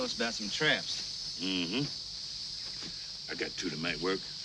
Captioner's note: insects chirping